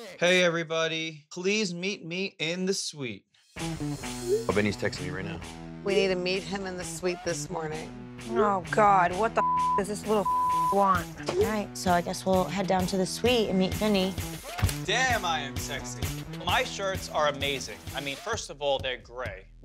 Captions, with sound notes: Hey everybody, please meet me in the suite. - Oh, Vinny's texting me right now. - We need to meet him in the suite this morning. - Oh God. What the (beep) does this little (beep) want? - All right, so I guess we'll head down to the suite and meet Vinny. - Damn, I am sexy. My shirts are amazing. I mean, first of all they're gray,